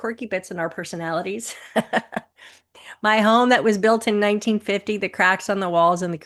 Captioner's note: chuckles